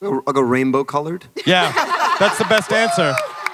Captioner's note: panelists laugh